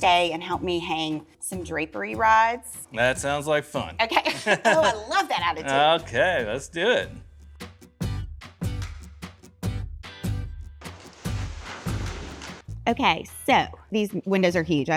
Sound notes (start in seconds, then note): 4.2 both chuckling; 7.5 bright music